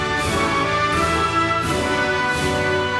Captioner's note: none